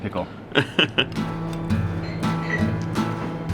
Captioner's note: chuckles; iranian instrumental music